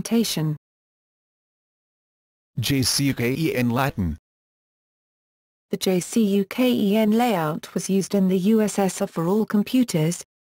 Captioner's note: Latin